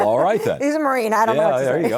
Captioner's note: laughs